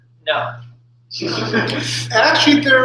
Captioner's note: laughter